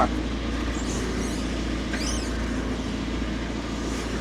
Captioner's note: telehandler whirring